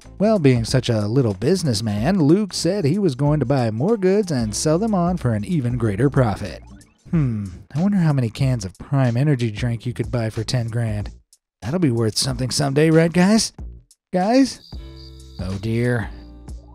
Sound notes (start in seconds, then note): 14.2 crickets chirping